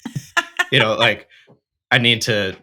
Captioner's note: laughs